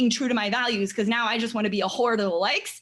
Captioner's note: none